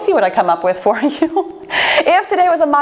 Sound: laughs

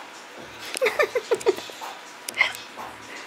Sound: giggling

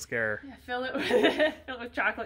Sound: laughs

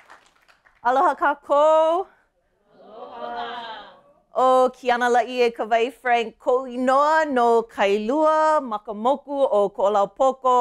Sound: speaking her language

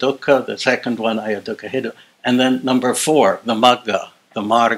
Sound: non-english

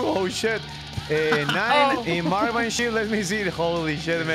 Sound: laughs

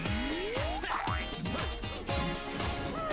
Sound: grunting

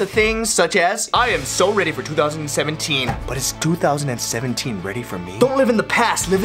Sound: Epic voice

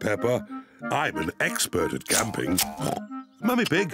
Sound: oinks

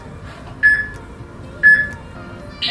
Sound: peep

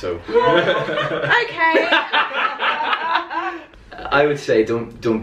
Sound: laughter

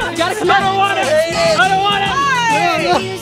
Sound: upbeat music; yelling

